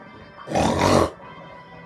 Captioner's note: snorts 2x